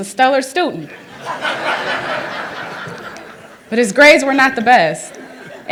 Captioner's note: laughter